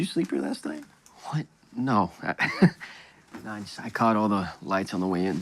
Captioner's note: laughs